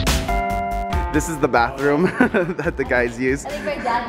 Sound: laughs

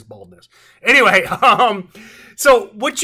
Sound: chuckles

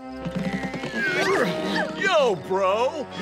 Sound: grunting

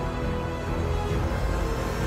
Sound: growling

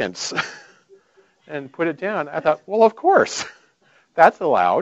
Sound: laughing

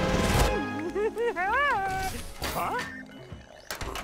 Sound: giggling

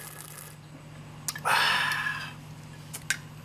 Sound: exhales

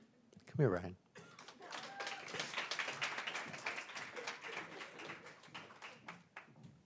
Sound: applause

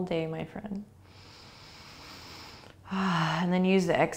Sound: inhaling

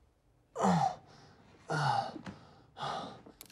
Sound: grunts

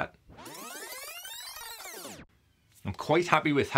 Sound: tape whirring

